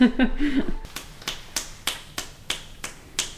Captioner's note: snaps